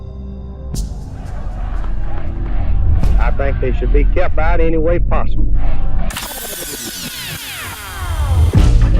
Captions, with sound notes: (chanting) - I think they should be kept out anyway possible. (rewinding sound)